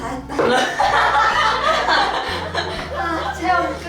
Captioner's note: haha